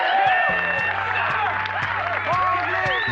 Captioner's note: cheers and applause